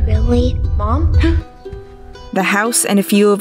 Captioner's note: Olivia gasps